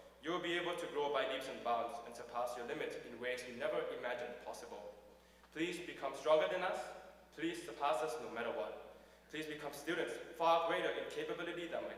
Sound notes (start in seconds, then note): none